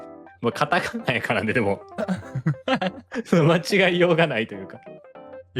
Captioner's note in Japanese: 笑い